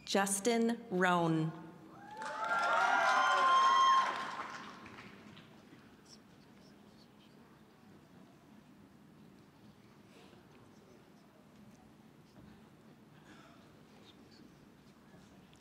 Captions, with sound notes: >> Justin Rohn. (audience cheering)